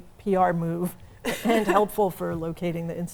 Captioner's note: laughs